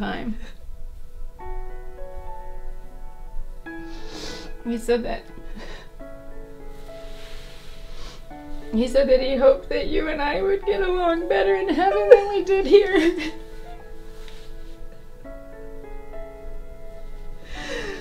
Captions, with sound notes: He said that, he said that he hoped that you and I would get along better in heaven that we did here. (gentle melancholic music) (both sobbing) And then he said he was sorry and he died.